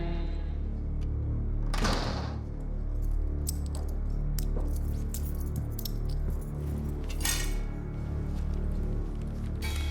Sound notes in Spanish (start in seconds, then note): 2.4 ruido al entrar; 7.2 sonido de las llaves